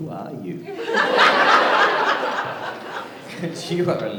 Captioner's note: laughter